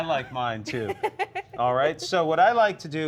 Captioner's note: laughs